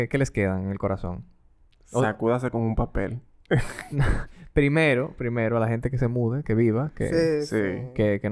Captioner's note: laughs